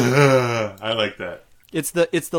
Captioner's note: laughing